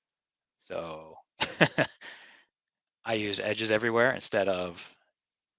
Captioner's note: laughing